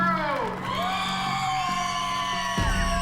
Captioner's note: cheering